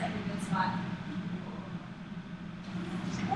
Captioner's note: quiet chatting